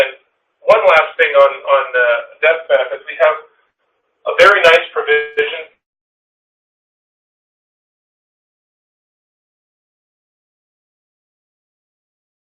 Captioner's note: audio gap